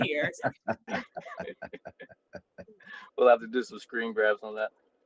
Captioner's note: laughter